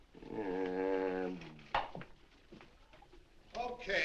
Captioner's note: groans